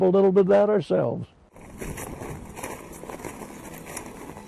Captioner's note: footsteps crunching snow